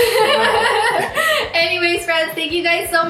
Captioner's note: laughs